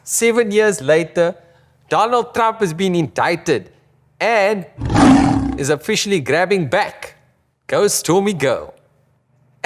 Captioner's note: lion roar